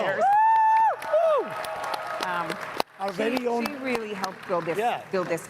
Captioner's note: audience cheering and clapping